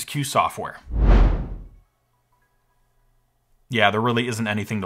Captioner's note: wind whooshes